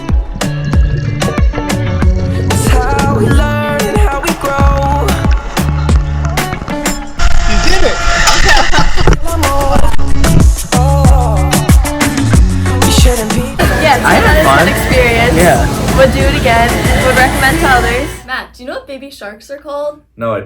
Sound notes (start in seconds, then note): 0.1 upbeat music continues; 8.3 laughs